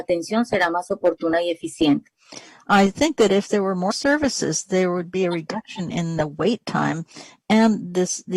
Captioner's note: speaking spanish